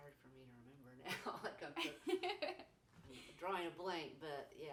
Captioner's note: laughing